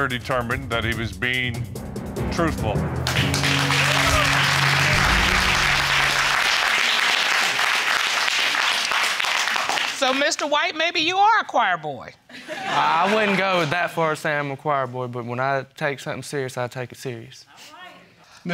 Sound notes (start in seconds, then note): 3.0 audience applauding and cheering; 12.4 audience laughing